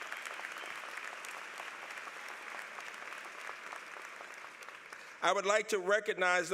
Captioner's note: applause